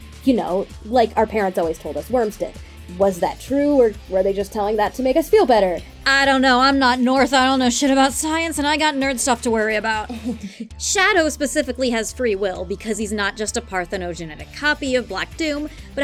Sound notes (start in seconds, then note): 10.0 laughs